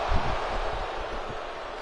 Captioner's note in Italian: Applauso